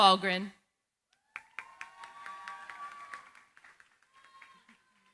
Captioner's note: cheering, applause